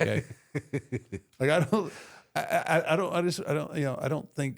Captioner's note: Michael laughs